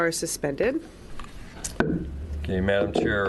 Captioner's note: gavel bang